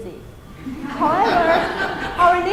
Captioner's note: audience laughing